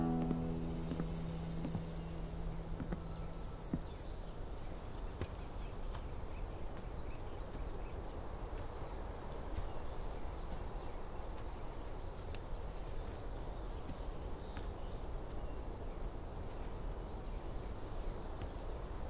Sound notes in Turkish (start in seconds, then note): 2.8 Kuş cıvıltı sesleri; 2.8 Rüzgar sesi